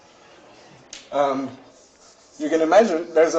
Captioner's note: hand chalk dusting